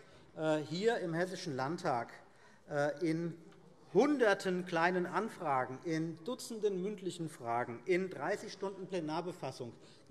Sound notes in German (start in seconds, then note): none